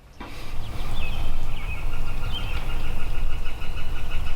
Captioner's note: birds chirping